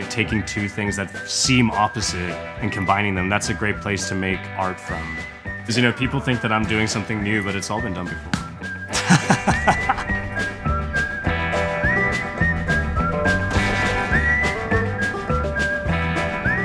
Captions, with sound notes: Taking two things that seem opposite and combining them. That's a great place to make art from. Because people think that I'm doing something new but it's all been done before. (laughs) (upbeat country music)